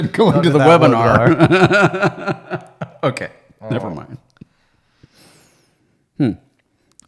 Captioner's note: laughing